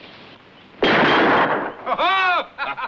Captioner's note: gunshot; both laughs